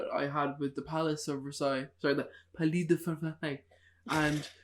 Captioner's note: in bad French accent